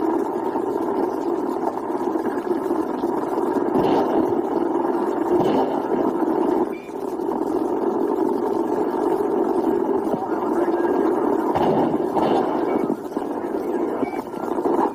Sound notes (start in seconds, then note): 0.2 radio static continues; 6.6 beep; 12.7 more radio static, indistinct chatter, beeps